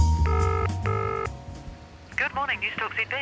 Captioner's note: phone ringing